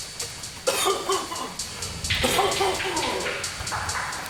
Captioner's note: Sherman coughing